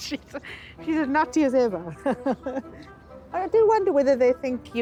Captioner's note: laughs